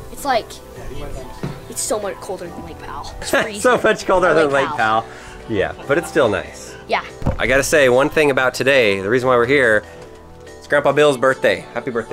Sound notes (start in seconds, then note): 3.2 laughs